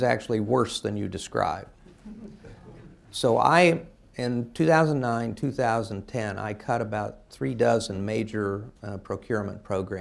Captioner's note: laughter